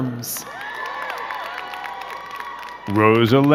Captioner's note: crowd cheering and clapping